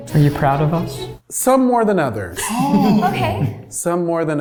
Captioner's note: laughs